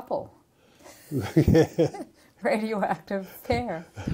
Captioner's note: laughter